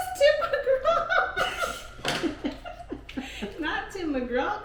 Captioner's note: laughing